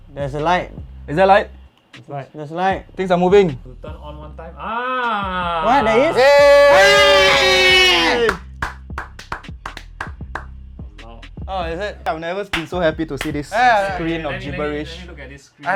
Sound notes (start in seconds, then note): 4.8 celebration noises